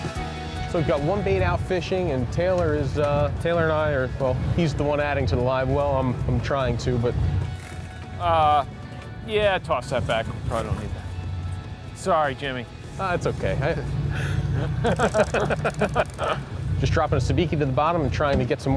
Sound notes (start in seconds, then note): 13.7 the guys laugh